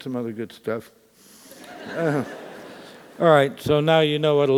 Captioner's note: laugh